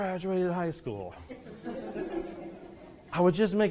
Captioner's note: students laughing